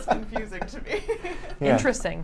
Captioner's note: laughs